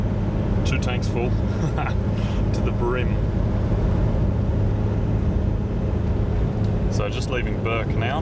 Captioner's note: laugh